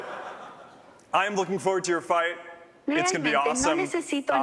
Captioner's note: speaking spanish